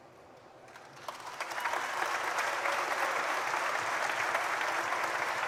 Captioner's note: audience applauding